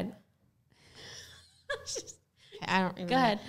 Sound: laughing

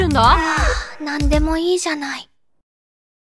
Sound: yawn

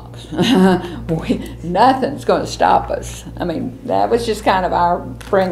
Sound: laughs

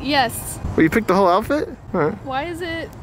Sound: laughs

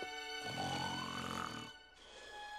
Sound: snoring

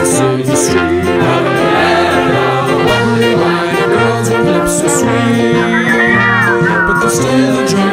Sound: whistling

